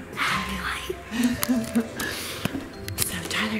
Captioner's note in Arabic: يضحك